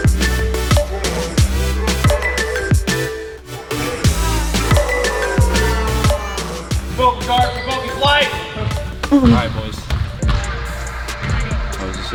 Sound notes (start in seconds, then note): 7.2 murmurs; 10.6 upbeat pop music